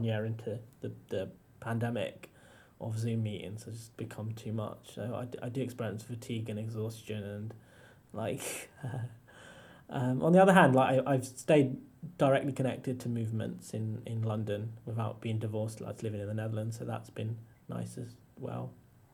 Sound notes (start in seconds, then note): 8.4 chuckles